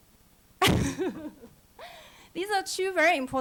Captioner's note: laughing